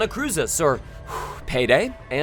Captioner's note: deep breath